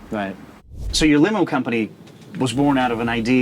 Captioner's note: air whooshing